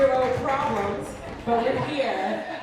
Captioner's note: cheers